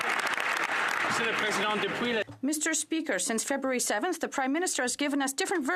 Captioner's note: some Applause